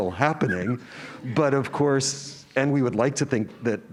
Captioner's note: laugh